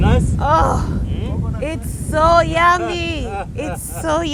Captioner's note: laughing